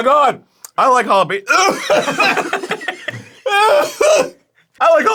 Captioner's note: coughs and everyone laughs